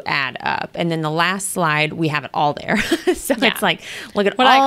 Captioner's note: laughs